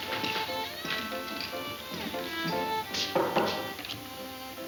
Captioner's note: spurs jingle; knocks; door slams